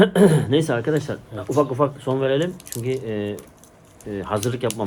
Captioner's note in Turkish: boğazını temizler